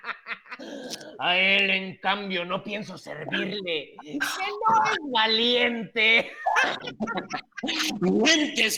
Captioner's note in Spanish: Risas